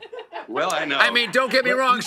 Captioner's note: laughter